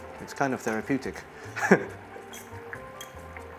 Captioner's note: chuckles